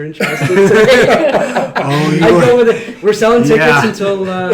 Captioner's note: laughing